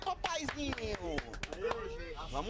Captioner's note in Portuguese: aplausos